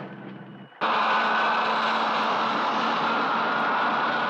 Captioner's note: rocket blasting